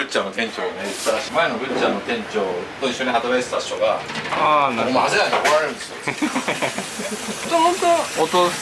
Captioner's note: laughs